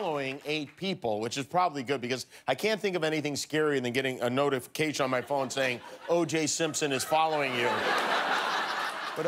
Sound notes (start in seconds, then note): 0.0 applause